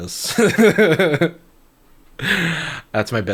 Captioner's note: chuckling